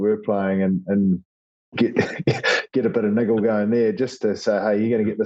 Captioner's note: laugh